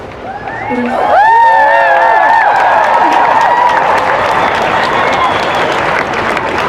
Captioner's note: cheering and applause